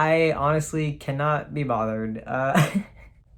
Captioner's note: laughs